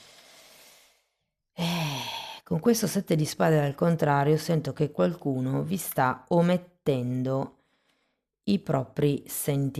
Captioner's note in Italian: sospiri